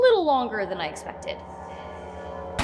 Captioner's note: ominous Echo